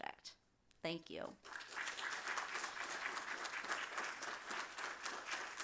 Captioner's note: applause